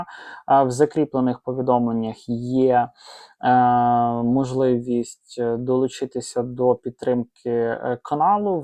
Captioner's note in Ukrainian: сопіння